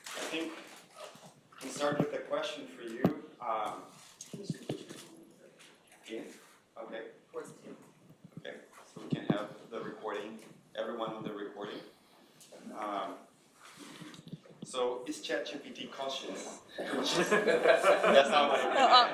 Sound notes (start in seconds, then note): 5.5 speaking faintly; 16.8 laughing